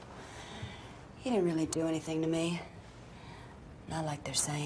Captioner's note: pat